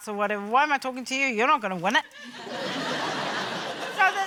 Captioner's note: laughter